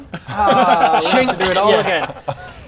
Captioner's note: chink